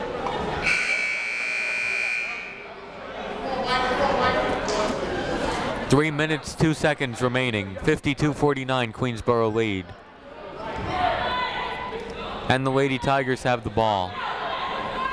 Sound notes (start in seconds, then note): 0.6 buzzer ringing; 2.7 people talking in the crowd; 10.5 people shouting in the crowd; 14.1 people shouting in the crowd